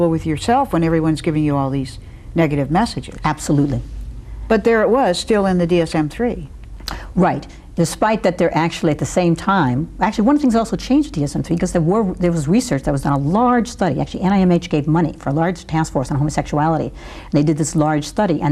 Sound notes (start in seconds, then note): none